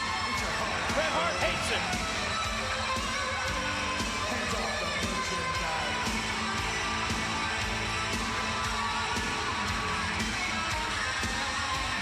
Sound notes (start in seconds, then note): 0.0 crowd cheering continues; 0.0 upbeat rock music continues; 2.9 crowd cheering continues; 2.9 upbeat rock music continues